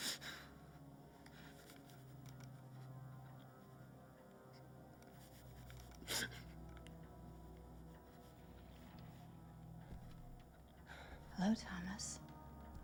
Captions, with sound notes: (somber music) (Thomas crying) - Hello, Thomas.